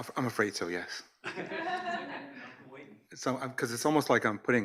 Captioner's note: audience laughs